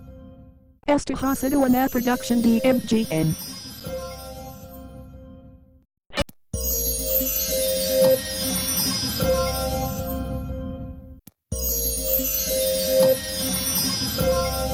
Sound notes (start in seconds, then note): 0.8 Microsoft Mary speaking Spanish; 11.3 magical music continuing